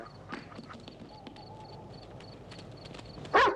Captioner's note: rock tumbling; barking continues